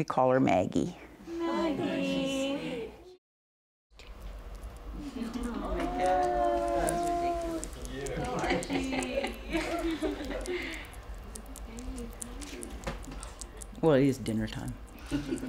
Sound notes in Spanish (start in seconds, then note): 7.8 el grupo aclama